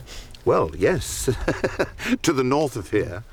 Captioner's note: laughs